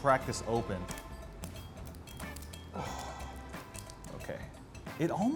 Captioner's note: shell crunching